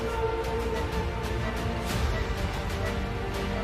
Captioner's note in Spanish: Sonido de telemetría